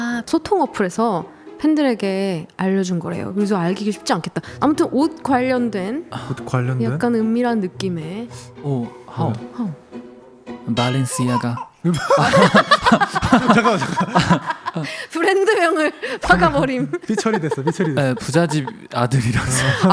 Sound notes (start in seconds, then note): 11.8 everyone laughs out loud